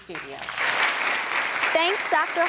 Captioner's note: audience claps